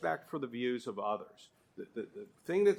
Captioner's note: none